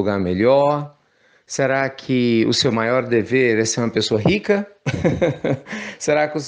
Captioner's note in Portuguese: risos